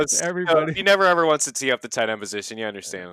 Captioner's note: laughs